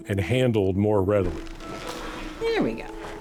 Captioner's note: bright music; packaging rustling